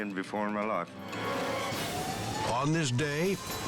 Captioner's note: dramatic music; siren wailing